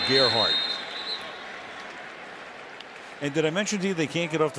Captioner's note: whistle blows